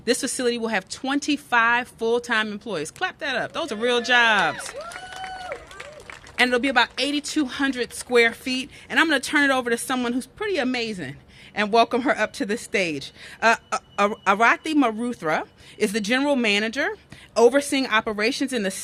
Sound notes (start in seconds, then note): 3.6 cheers and applause